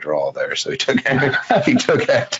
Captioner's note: laughs